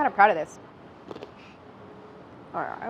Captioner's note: crunching